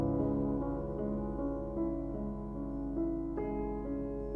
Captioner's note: none